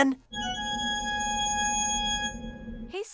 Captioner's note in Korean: 띠로리~